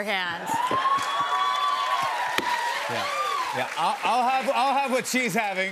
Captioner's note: cheers and applause